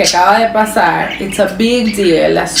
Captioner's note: Spanish